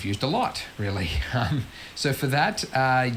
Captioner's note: laughs